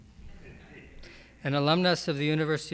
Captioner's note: audience chuckles